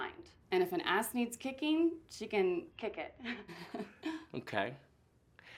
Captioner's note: laughs